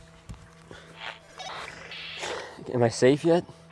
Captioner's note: radio bleep